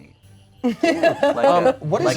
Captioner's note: laughs